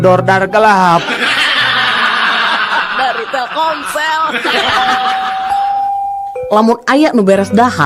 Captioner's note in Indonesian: tertawa